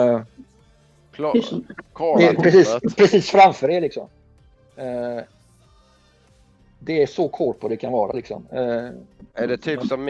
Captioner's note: faking Gothenburg dialect